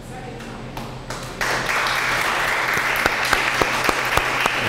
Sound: audience applauds

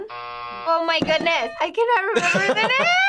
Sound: buzzer rings; bell rings

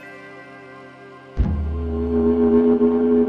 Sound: dull thud

